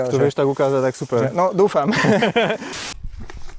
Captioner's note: laughs